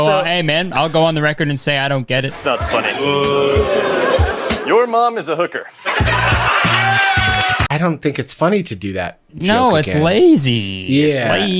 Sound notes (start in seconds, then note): 2.4 crowd boos; 6.4 crowd laughs